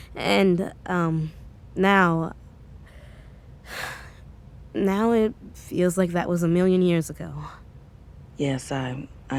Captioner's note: sighs